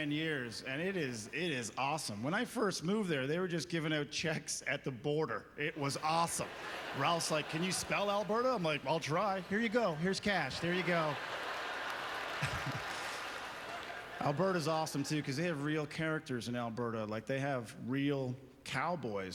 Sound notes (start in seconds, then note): 11.5 audience laughter